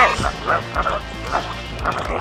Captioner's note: children laugh